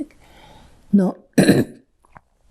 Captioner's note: clears throat